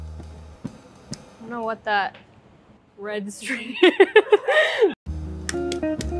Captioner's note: laughing